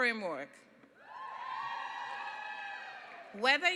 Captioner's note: cheering